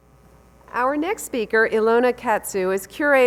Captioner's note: voiceover